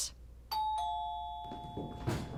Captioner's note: doorbell dings; whimsical music